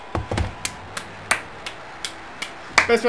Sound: applauding

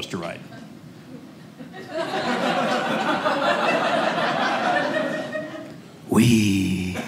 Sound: audience laughing

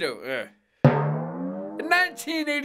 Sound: boing

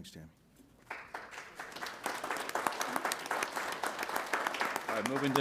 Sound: applause

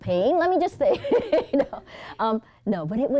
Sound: laughs

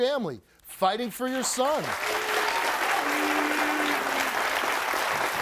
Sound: audience applauds

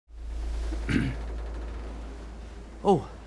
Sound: clearing throat

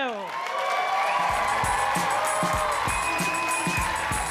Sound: audience cheer and applaud; upbeat music

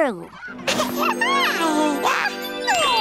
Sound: cooing

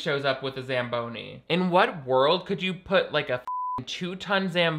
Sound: beep

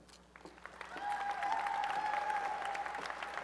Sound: applause and cheering

